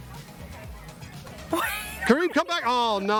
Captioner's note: laughter